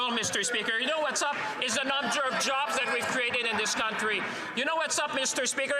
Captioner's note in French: voix de l'interprète